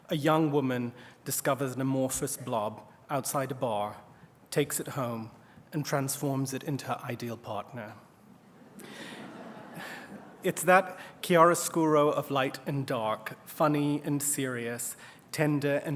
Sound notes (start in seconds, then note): 8.5 laughter